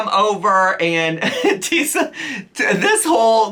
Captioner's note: chuckles